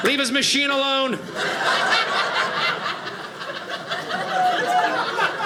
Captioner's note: audience laughing